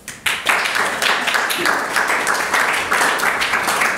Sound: audience claps

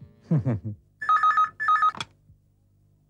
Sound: phone rings

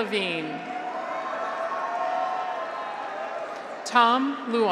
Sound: graduates cheer

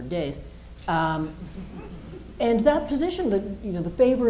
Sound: laughter

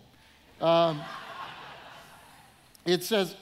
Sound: audience laughing

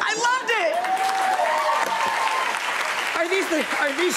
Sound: audience cheering

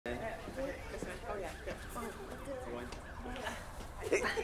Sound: indistinct chatter

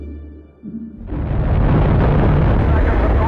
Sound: engines roaring

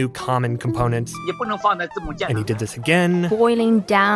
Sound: speaking Mandarin

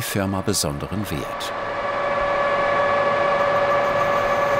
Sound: machine whirring

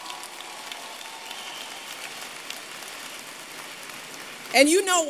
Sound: applause

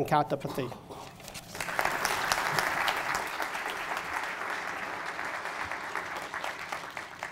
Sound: audience applause

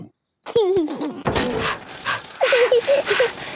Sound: mummy pig panting; daddy pig panting; chuckles; peppa chuckles

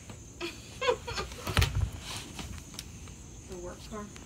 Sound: laughs

